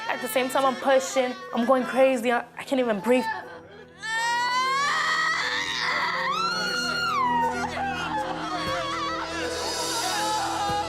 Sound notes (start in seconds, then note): 4.1 screams